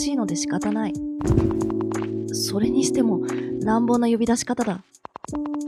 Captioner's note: sound of knocking on the door